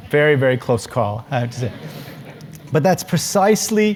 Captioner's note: laugh